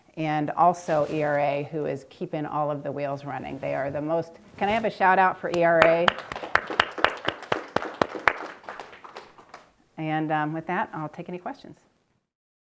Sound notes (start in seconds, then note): 7.2 people clapping